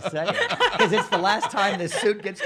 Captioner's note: laughing